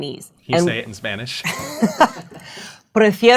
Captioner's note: laughing